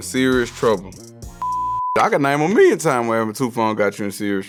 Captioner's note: beep